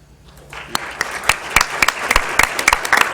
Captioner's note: applause